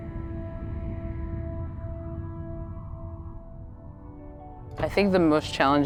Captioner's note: quiet music; wind quietly rustling